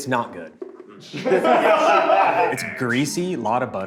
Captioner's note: group laughs